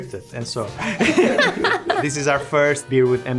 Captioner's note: both laughing